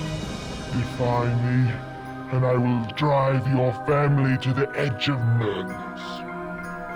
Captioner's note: none